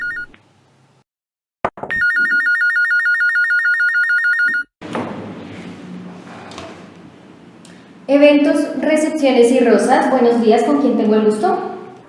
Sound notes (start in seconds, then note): 1.9 phone continues ringing